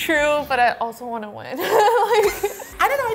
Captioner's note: laughs